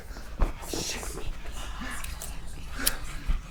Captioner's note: voices whispering